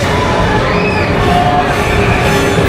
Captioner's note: screams